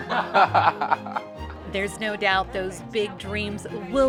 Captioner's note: laughter